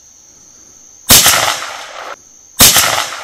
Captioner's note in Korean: 총소리